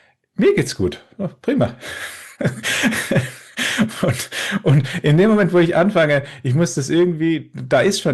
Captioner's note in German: gelächter